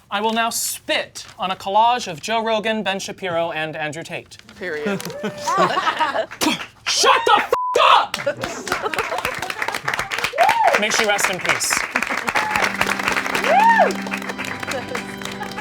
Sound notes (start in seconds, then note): 8.8 audience applauding; 12.2 sad organ music